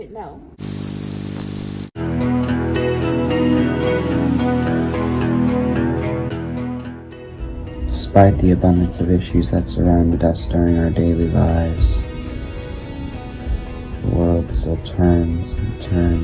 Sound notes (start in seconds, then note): 2.8 high-pitched buzzing